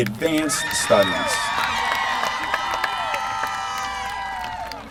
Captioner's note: applause